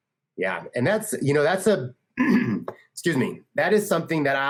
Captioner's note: clears his throat